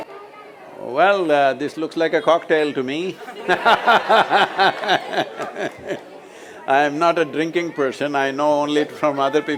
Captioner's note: speaks in Hindi - not transcribed; laughter